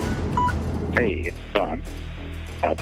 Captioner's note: phone ringing